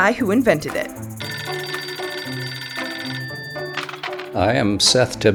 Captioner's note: phone ringing